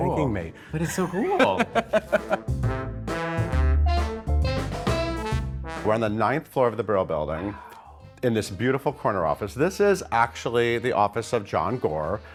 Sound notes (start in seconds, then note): 0.5 laughing; 2.7 upbeat music